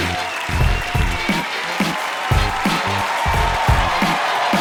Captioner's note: cheering louder